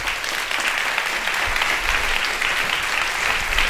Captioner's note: applause